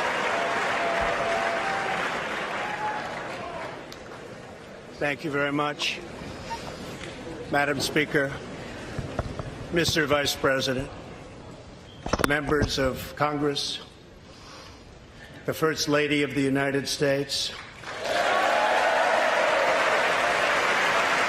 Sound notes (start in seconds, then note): 5.1 applause